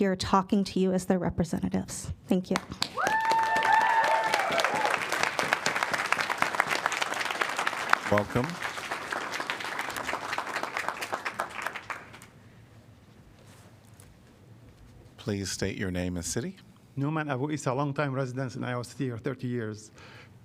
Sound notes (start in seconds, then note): 5.3 applause